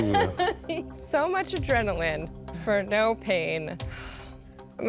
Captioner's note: laughing